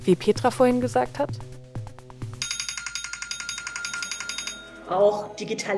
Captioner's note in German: Wecker klingelt